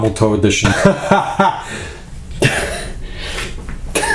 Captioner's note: laughs